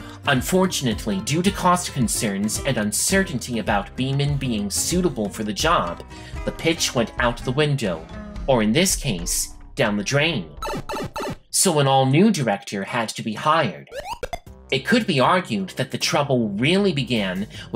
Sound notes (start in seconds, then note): 10.6 power down sound; 13.9 kicking Koopa shell sound